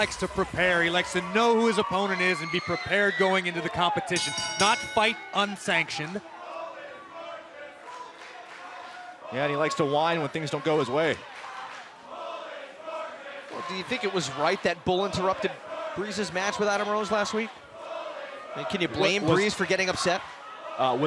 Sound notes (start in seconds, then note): 4.1 bell ringing